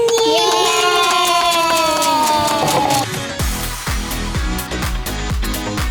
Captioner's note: clapping